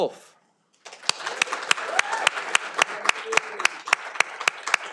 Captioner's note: audience applauding